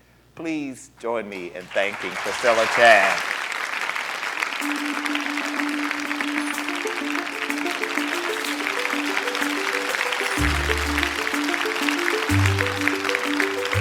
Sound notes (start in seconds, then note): 3.5 applause